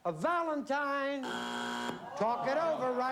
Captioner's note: buzzer